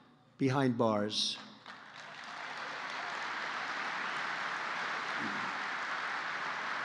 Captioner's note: applause